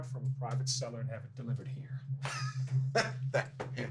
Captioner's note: ben laughs